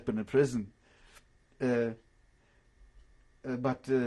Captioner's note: pauses for 3 seconds